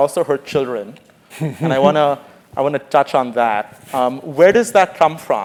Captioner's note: laugh